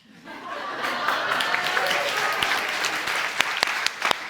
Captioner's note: audience applauds